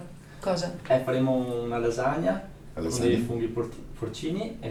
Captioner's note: speaks dialect